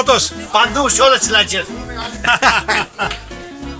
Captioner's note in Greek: γέλιο